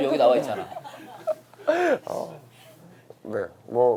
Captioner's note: laughing